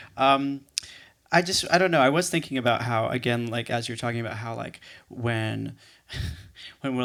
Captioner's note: laughs